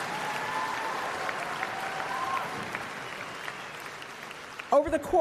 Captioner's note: applause